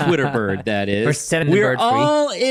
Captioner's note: laughs